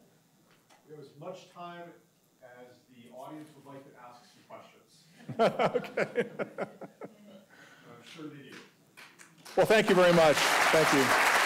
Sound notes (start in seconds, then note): 5.3 laughing; 11.2 audience applauding